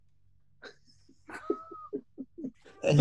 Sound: giggling

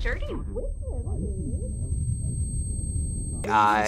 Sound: high-pitched tone echoes

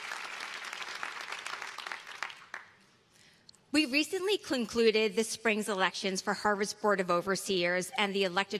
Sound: applause

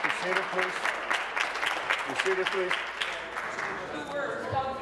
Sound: applause

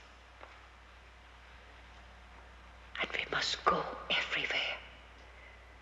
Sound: Betsie whispering

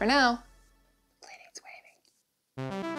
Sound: whispering

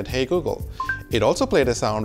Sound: high beep

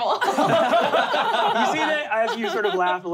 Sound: laughing

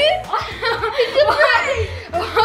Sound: giggling

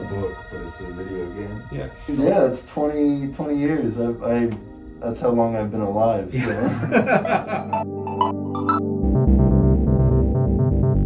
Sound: laughing

